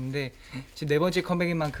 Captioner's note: inhale